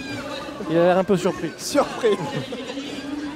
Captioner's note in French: rire…